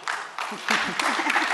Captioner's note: applause